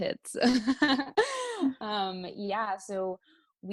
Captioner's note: laughter